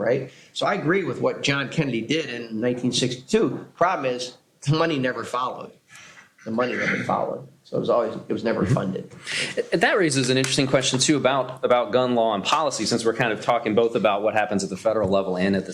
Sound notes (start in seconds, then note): 6.4 laughs